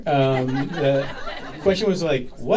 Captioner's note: audience laughing